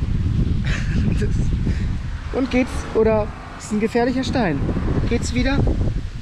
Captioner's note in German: lacht